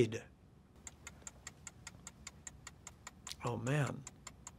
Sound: timer ticking

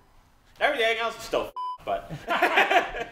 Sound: beep; laughing

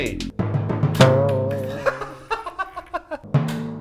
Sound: laughs

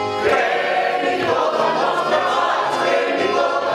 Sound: none

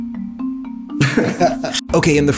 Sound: laughs

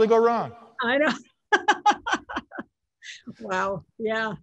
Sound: laughs

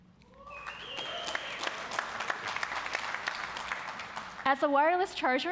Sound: audience cheering and applauding

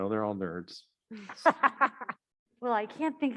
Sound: panelist laughing

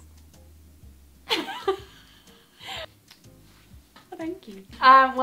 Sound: laughing

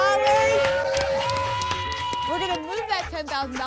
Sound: applause and cheering

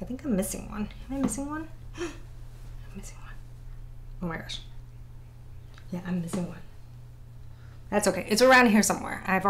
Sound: gasp

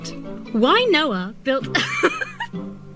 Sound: laughs

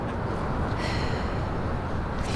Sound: emma sighs

